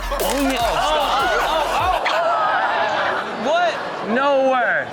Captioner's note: co-host laughs; audience reacts in surprise